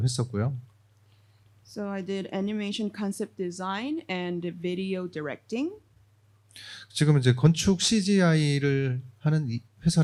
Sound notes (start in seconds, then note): 7.3 speaking korean